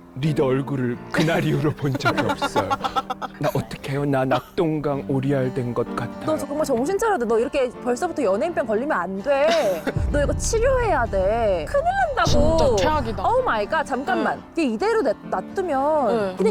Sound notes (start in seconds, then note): 9.9 sound effect: thunderbolt